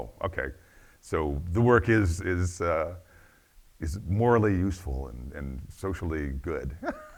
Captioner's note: laughs